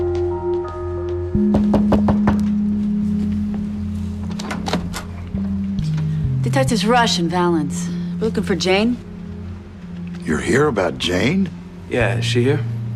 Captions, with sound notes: [knock on door] Detectives Rush and Valens. We're looking for Jane. You're here about Jane? Yeah. Is she here?